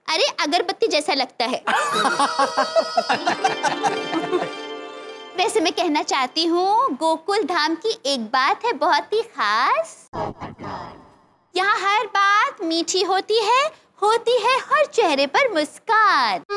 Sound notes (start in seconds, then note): 1.6 laughs